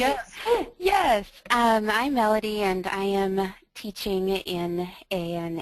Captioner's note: voiceover